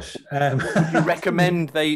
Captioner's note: laughs